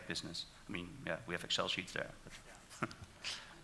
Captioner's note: laughs